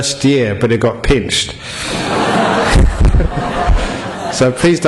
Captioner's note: laughter